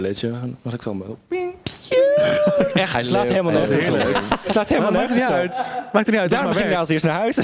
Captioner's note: cackles in the background